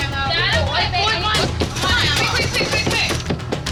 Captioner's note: crowd cheering